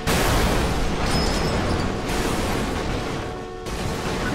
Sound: car horn blaring

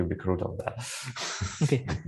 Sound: laughs

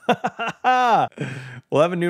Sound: laughs

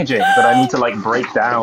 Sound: gasps

